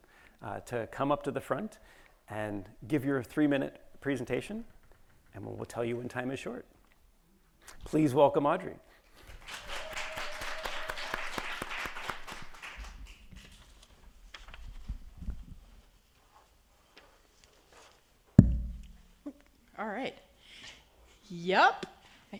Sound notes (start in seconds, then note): 9.2 attendees applauding